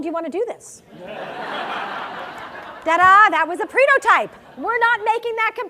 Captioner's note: laugh